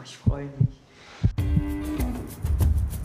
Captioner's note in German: Herzpochen; Lässige Musik